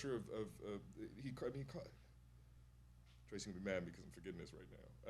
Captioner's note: stammering